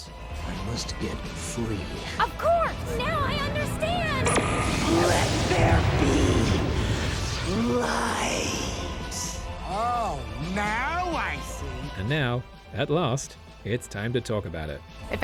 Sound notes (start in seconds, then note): 4.3 classic anime psshew-whoosh noise